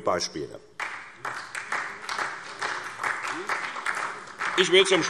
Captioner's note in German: Beifall